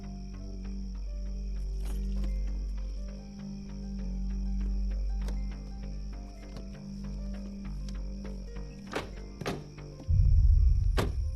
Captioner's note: crickets chirping